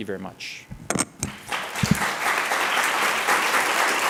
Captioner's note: applause